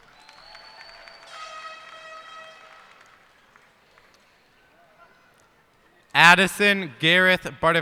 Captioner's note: cheers and applause